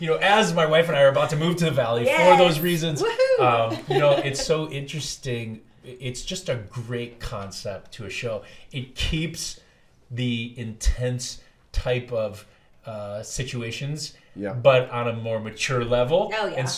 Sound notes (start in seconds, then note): 2.0 laughs